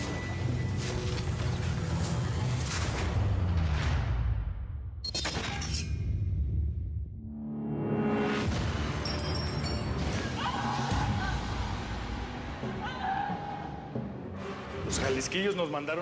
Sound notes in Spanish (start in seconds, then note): 10.2 gritos